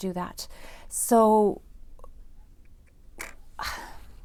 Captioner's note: sighs